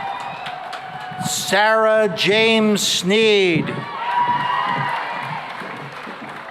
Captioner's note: cheering and applause